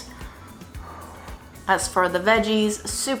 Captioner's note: sighs